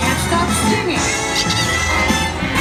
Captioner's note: sqeak